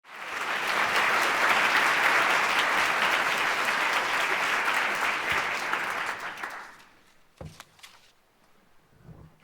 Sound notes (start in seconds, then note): 0.0 applause